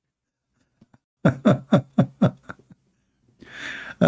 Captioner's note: Ketawa